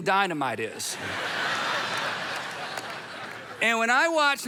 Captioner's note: audience laughing